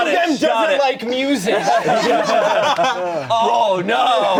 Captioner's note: everyone laughing